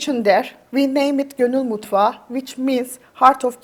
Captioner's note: speaks in Turkish